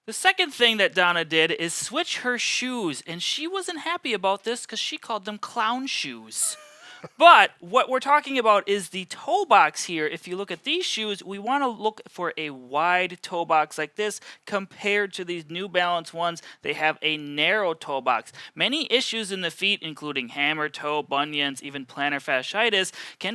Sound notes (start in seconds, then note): 6.4 chuckles